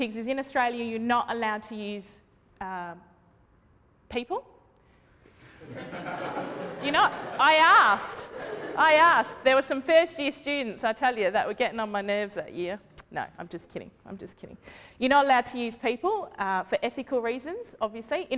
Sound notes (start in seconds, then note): 5.4 laughter